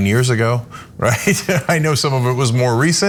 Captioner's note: laugh